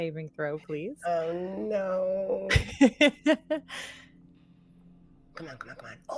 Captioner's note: laughs